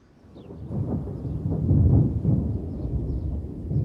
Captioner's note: thunder rumbling